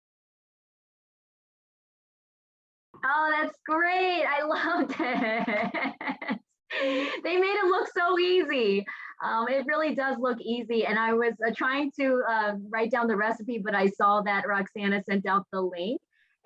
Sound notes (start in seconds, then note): 4.5 laughing